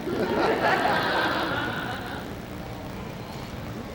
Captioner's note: laughter